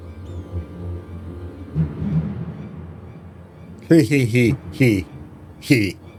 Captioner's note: laughs